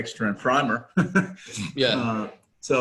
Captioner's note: laughs